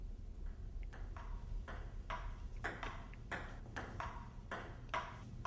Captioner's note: ball tapping